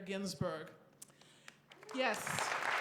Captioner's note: applause